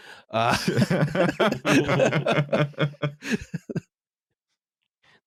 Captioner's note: laughter